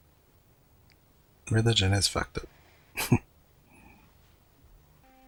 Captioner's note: chuckling